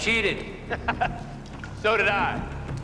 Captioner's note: Louis laughs